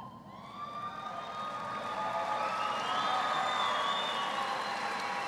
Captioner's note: applause